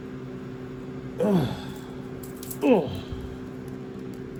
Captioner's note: Ella grunts